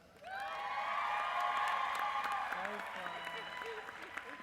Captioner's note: applause